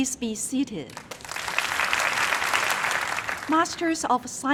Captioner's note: crowd applauding